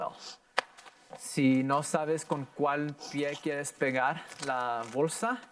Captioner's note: in foreign language